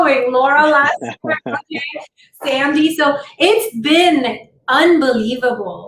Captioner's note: laughter